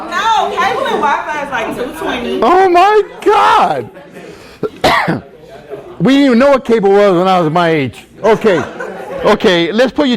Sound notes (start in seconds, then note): 4.5 coughs